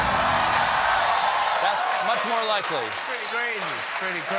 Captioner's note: cheers and applause; suspenseful music